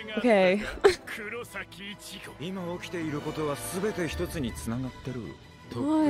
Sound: speaking in foreign language

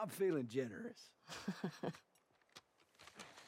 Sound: laughs

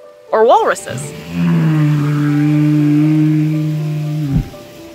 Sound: background music; walrus vocalizing

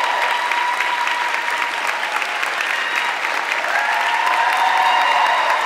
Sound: audience clapping and cheering

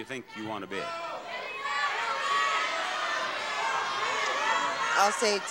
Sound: audience shouting

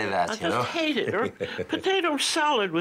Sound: Jacques chuckling

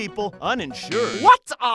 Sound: buzzer

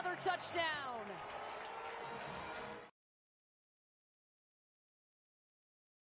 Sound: siren

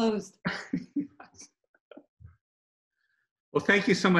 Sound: laughs

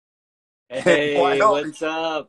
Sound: laughs

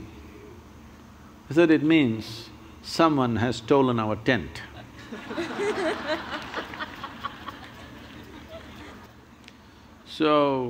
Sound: laughter

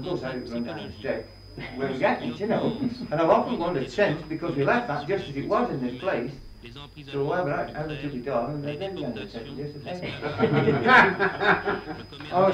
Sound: laughter

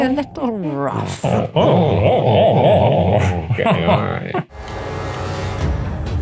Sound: chuckling

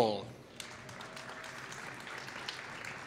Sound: applause

